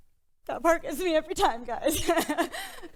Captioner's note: crying; laughs